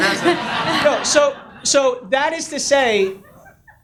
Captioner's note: audience laughs